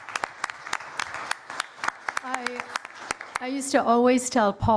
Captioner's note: applause